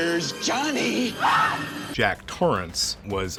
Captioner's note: screaming